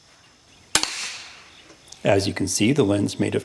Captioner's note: gunshot